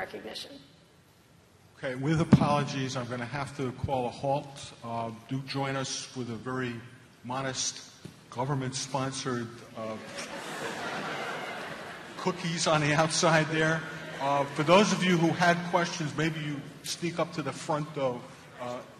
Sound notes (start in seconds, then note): 10.0 laughter